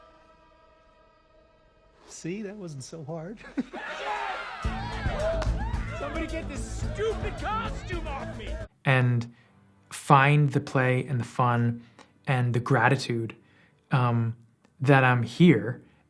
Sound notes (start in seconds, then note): 3.7 crowd cheering; 4.6 upbeat music